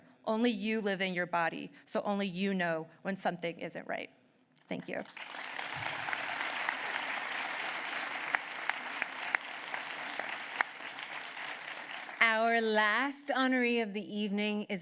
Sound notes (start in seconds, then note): 4.9 applause